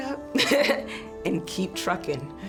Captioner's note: laughing